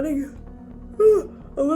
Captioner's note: yawn